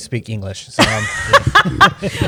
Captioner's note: laughter